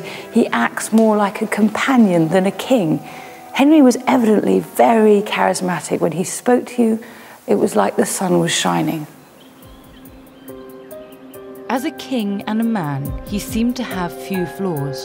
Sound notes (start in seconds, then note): 9.4 birds chirp; 9.6 tense music